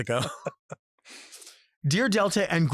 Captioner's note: Robert and Delta laugh